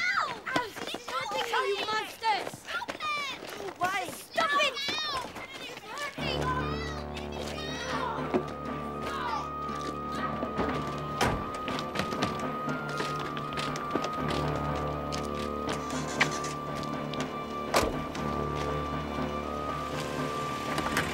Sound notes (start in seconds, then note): 7.3 ominous orchestra music; 11.2 door slams; 15.9 car engine starts; 15.9 door slams; 20.6 trunk opens